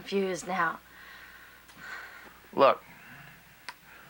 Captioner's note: sighs